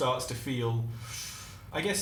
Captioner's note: sharp intake of breath